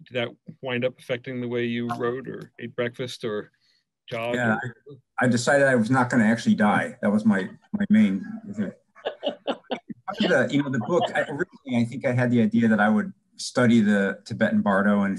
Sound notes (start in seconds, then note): 4.1 murmurs; 8.4 murmurs; 9.0 laughs